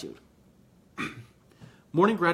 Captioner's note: clears throat